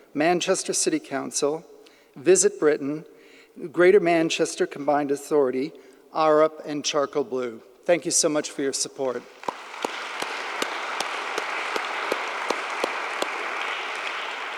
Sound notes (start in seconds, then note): 9.3 audience applauding; 9.3 claps